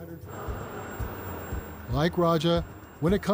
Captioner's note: flames whooshing